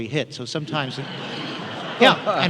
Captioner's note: laughter